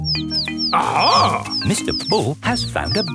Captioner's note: chirping